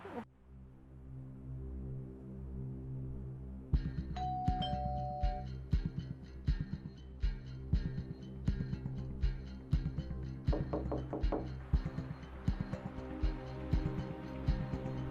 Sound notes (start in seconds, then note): 0.2 dramatic music; 4.2 door bell chimes; 5.6 dramatic music; 10.7 knocks on door; 11.5 dramatic music swells